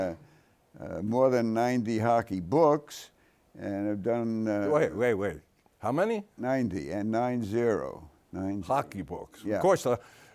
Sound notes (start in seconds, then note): none